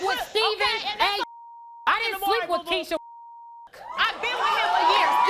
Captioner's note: beep